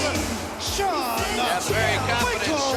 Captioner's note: crowd cheering